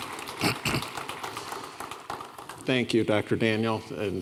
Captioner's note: audience applauding